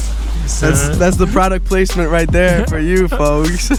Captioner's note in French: Rires